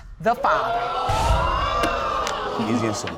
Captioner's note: audience exclaiming